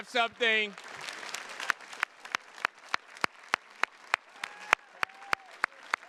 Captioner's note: attendees cheers and claps